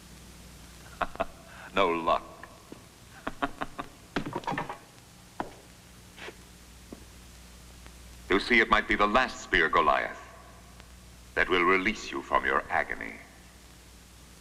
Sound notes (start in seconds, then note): 0.8 laughing; 3.1 laughing